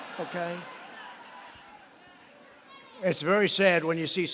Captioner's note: laughter